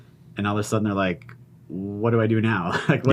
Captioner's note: chuckles